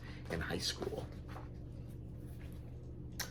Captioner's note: pages turn